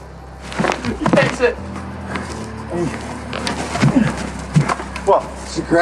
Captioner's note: grunts